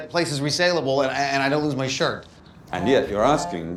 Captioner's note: cell phone vibrates